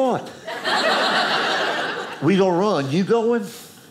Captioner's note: audience laughing